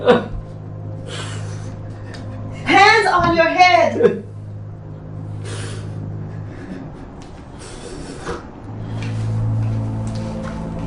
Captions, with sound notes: (crying) Hands on your head! (sobbing)